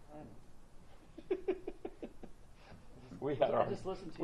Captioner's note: laughs